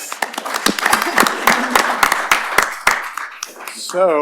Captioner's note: applause